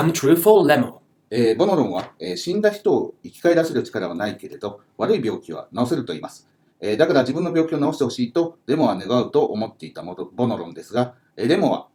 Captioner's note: speaking Japanese